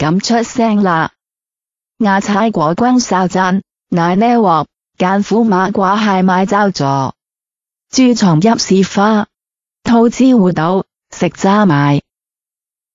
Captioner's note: Cantonese